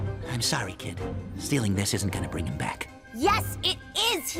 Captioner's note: none